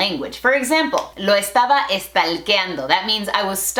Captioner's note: Spanglish